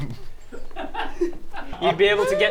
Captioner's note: laughs